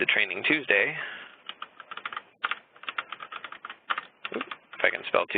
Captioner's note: keyboard typing